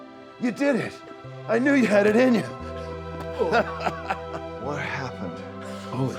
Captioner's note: laughs